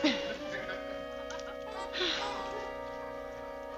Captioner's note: sighs